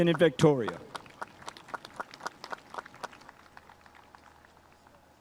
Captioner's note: spectators applauding